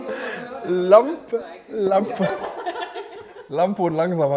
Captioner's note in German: Gelächter